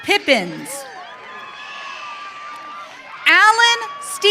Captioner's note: audience cheering